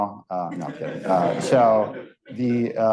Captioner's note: audience laughing